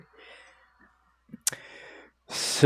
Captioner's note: annoying tongue sound